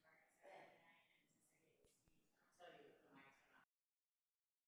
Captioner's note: group chattering